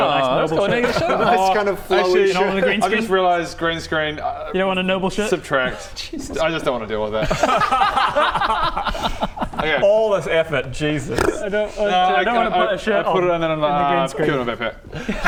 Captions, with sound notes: Aww now you've got a shirt on Nice kind of flowy shirt Uh actually In all of the green screens I just realised green screen You don't want a noble shirt? Subtract Jesus I just don't wanna deal with that *extremely judgemental laughter* Hang on All this effort, Jesus! - No I....I put it on and then - I don't want to put a shirt on! - I'm like ah put it in my backpack - In the green screen